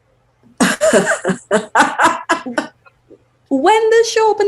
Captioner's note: laughs